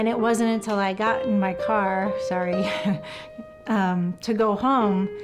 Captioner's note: nervously laughs